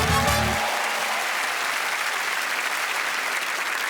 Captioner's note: applause